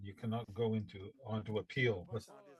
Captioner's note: speaking French